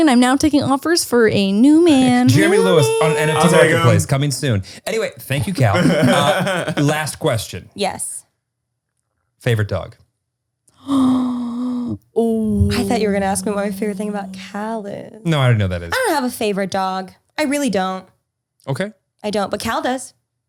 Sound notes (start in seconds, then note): 12.6 gasps